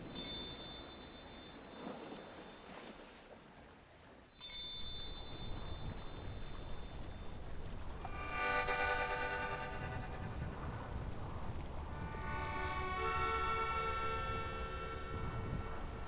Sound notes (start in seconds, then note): 0.0 bell chimes again; 1.3 waves splashing; 4.3 bell chimes again; 8.1 gentle harmonica music